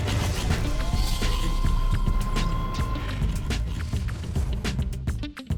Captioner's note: high-tech mechanical sounds; funky music